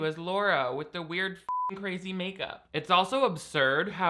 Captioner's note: beep